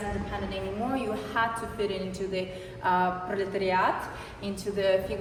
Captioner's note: non-english speech